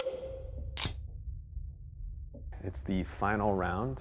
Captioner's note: gold clinking